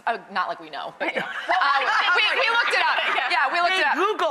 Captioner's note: audience laughing